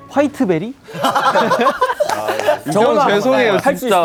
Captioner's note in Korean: 참을 수 없는 비웃음